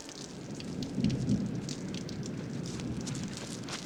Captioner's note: thunder